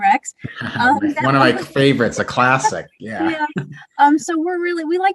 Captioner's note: laughter